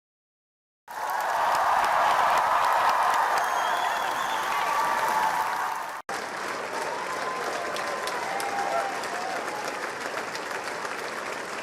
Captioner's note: applause